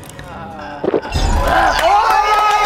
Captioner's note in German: Gluckern; Schlucken, Würgen; Applaus, Jubel